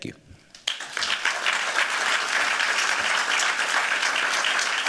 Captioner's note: applause